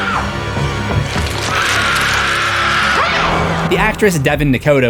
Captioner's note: screams